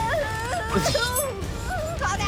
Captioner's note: Annoying Orange screaming; knife clanging